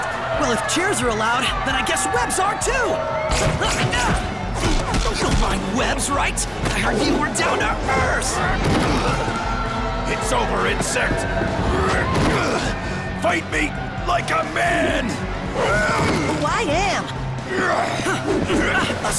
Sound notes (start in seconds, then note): 3.5 grunts